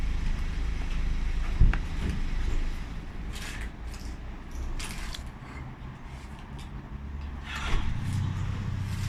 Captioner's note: petrol station sounds